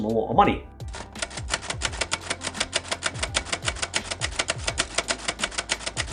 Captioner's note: typewriter keys clacking